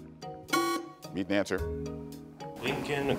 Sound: alarm buzzes

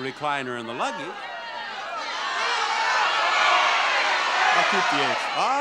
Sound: audience yells advice

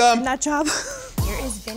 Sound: laughs

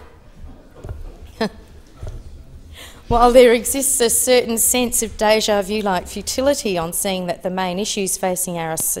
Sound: laughs

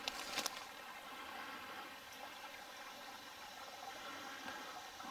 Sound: burbling water

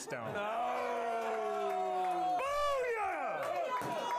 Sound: applause

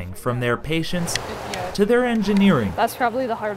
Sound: clicks of remote

